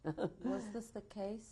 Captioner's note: laughs